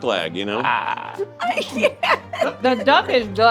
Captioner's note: laughing